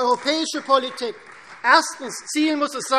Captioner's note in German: Beifall